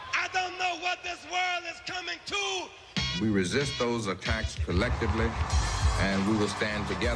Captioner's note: applause